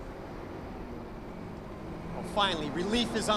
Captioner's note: vehicle approaching